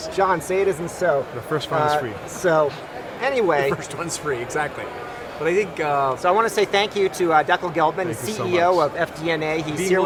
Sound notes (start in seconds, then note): 3.8 laughs